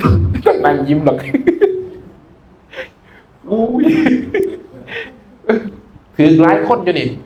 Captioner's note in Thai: เสียงหัวเราะ